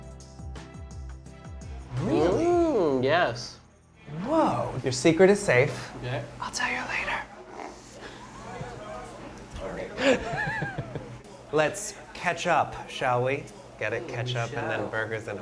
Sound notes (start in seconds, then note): 7.3 snorts; 9.9 laughs